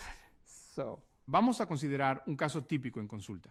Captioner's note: speaking spanish